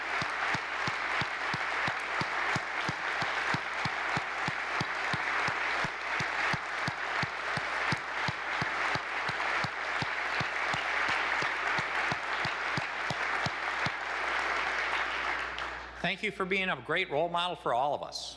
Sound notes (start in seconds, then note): 4.1 applause